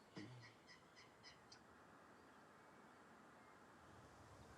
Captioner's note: birds chirping